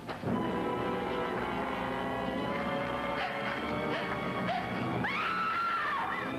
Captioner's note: tense music; Joan panting; Joan screams